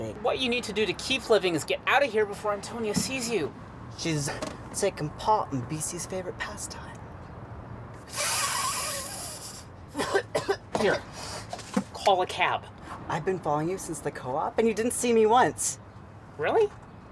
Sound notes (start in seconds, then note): 9.9 coughs